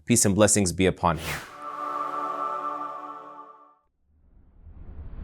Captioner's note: air whooshing